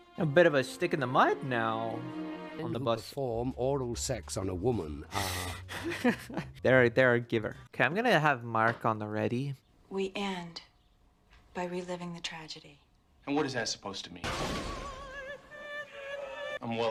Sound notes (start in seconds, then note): 5.7 laughter; 14.2 sad, dramatic music